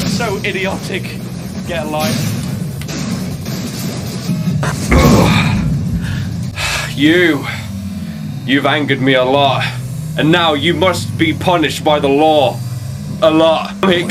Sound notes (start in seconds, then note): 4.6 groan